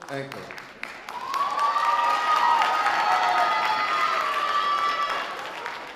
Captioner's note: sustained audience cheering